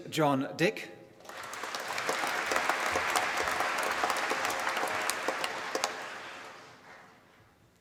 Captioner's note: applause